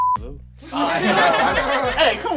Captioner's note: laughter